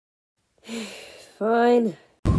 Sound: sigh

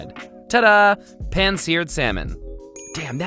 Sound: bell dings

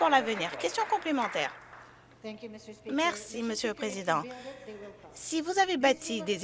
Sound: some Applause

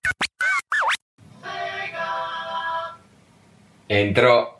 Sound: Sounds the sega intro

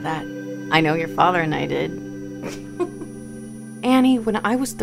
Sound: laughs

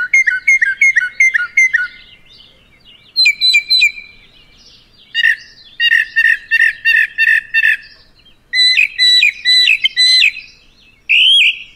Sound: mockingbird singing

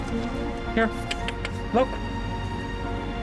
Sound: tongue clicks

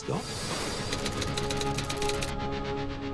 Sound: typewriter keys click

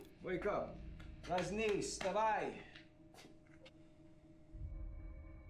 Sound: speaking foreign language

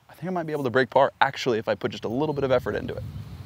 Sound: none

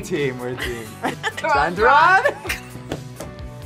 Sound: both laugh

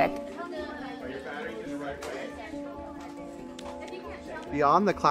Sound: muffled classroom chatter

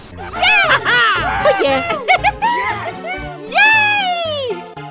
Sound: everyone cheering

